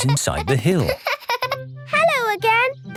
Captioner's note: laughing